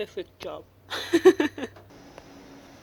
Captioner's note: laughs